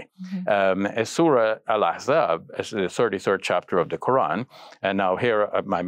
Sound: speaking foreign language

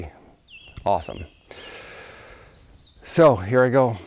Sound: birds chirping

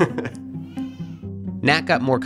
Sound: cries

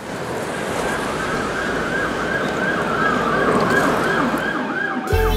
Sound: sirens sounding

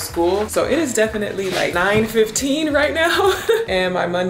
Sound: laughs

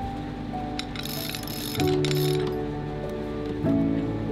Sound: pulley clinking

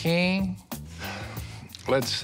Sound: sighs

